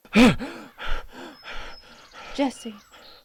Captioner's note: Jesse gasping